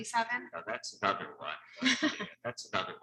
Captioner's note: laughter drowns out speech